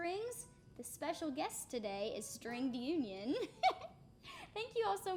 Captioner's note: laughing